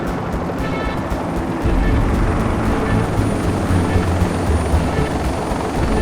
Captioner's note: helicopter thrumming continues